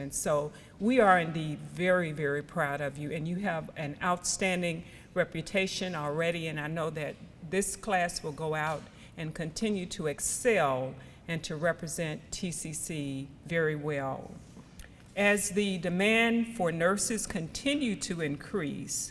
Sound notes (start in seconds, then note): none